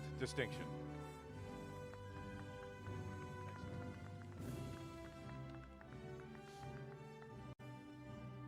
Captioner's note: applause